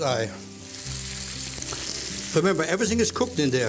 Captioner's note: sizzling